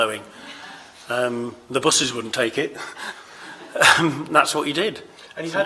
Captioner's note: chuckles